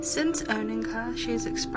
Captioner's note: woman's Voice